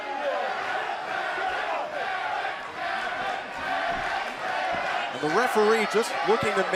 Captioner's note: crowd cheering